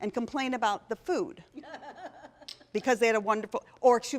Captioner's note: laughter